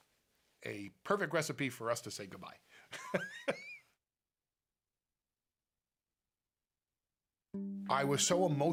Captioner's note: laugh